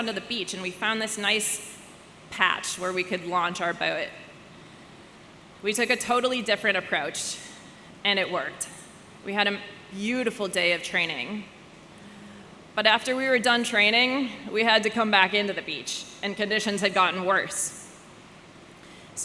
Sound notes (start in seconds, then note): none